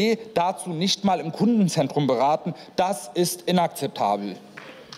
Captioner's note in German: Beifall